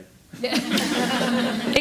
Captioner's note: all laugh